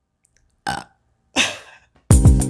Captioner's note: burps